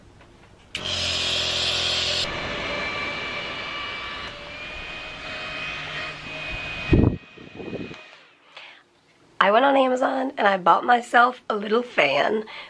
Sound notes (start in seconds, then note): 0.8 nebulizer machine running; 2.4 fan whirring